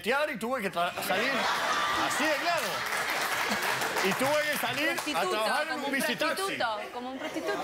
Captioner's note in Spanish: Risas; Aplausos